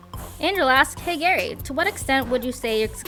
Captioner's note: voiceover